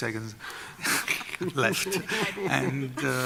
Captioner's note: laughter